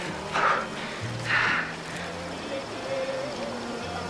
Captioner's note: panting with effort